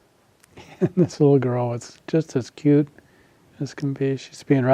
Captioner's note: giggles